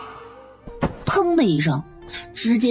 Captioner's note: thud!